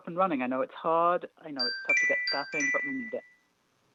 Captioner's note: chime